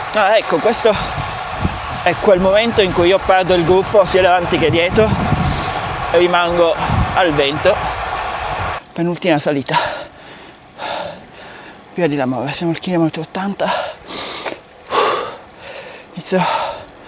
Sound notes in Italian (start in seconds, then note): 11.3 sospiri; 14.8 sbuffare